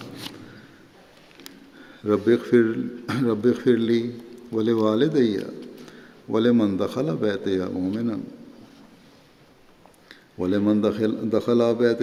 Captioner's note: Arabic